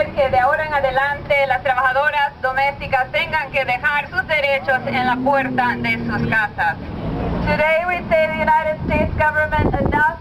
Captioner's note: spanish 00:06:28